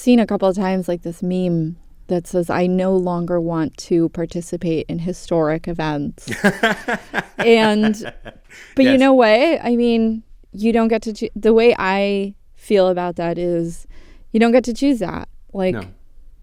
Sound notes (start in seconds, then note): 6.2 laughter